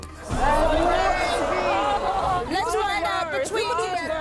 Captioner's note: groaning